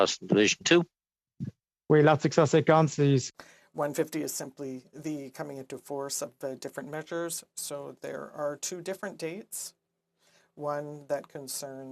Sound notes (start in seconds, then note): 9.4 speaking French